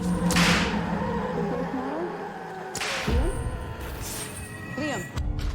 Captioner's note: shrieking & muffled speaking